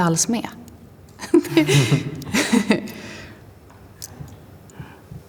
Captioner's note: laugh